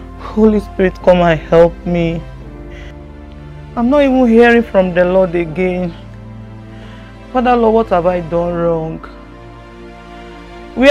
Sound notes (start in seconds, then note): none